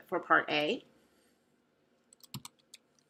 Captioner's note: long pause